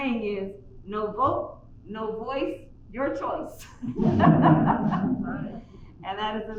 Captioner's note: laughter